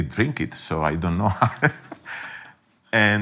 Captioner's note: laughing